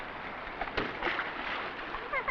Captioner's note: splashing; laughing